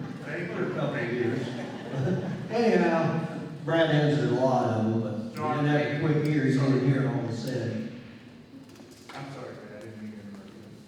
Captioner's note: laughter